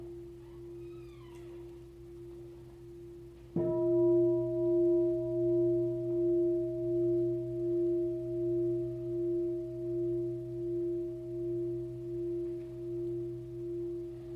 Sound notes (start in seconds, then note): 3.8 bell sounds